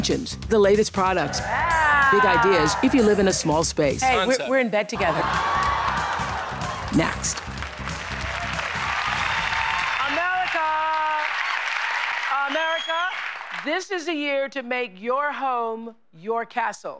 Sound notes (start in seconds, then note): 5.5 laughter; 7.5 applause